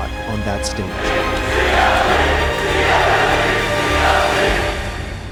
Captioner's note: crowd cheering